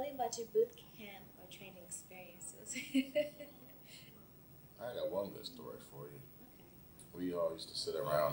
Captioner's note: laughs